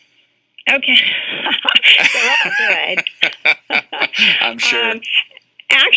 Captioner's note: haha